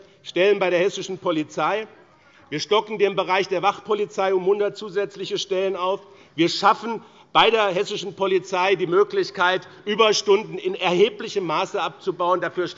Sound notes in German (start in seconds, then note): none